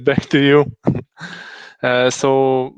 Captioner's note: laughing